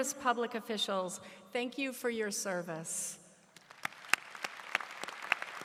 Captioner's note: applause